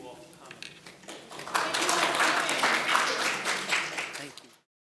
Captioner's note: applauding